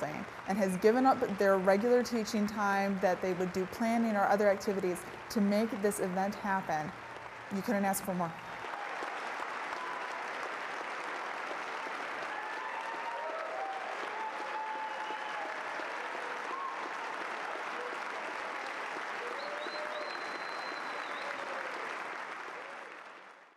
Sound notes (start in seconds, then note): 8.9 applause